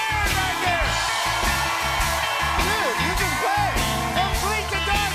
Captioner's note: cheers and applause